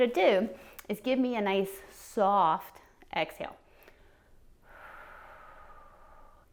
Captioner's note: exhales